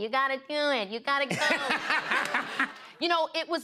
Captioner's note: laughter